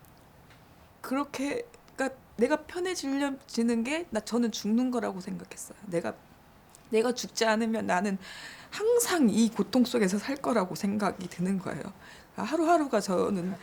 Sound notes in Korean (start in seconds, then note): none